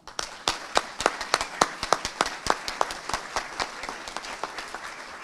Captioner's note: audience applauding